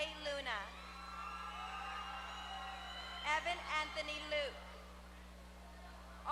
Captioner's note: applause